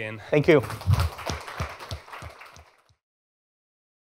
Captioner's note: applause